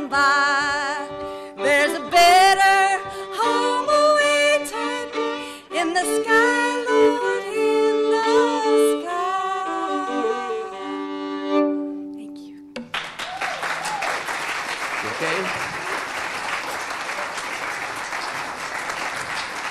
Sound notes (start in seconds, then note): 12.8 audience clapping